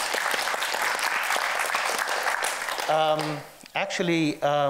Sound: audience clapping

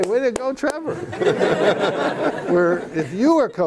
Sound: laughter

